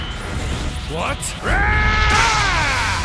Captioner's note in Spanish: Gritos